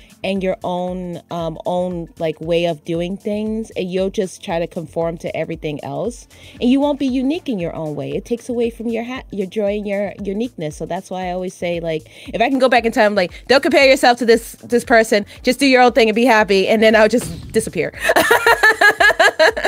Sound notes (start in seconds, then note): 17.1 smoke bomb goes off; 18.0 laughs